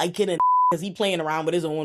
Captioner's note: beep